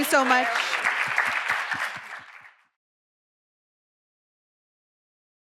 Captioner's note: audience applauding